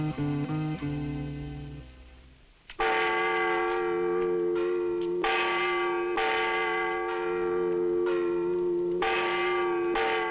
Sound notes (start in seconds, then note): 0.0 somber music continues; 2.8 bell clanging